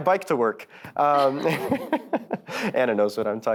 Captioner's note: panelists chuckles